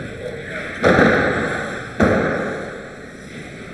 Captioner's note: doors clunking